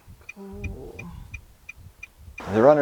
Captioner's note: soft groan